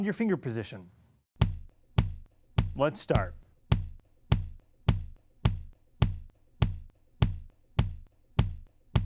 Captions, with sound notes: Find your finger position. [ simulated heart beat sound ] Let's start.